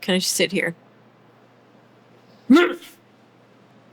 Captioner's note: grunts